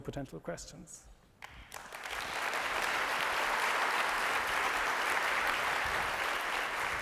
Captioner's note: applause